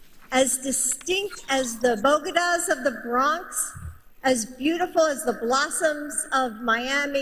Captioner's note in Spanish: hablan en ingés